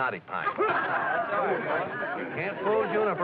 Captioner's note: excited chatter